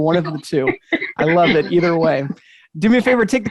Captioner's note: chuckles